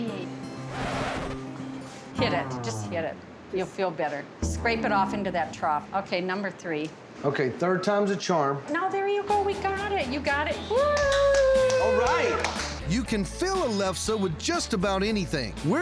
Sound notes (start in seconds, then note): 0.7 record scratching sound; 10.9 clapping